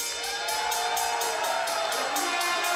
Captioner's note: bell ringing